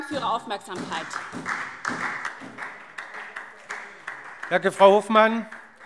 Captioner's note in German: Beifall SPD